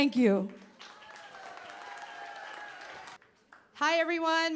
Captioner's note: cheering, applause